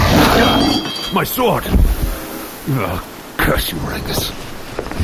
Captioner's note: the wraith growls and knocks the sword aside